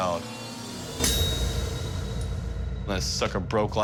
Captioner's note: metal shatters